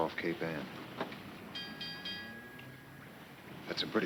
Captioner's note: bell clanging